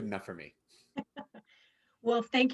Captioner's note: laughs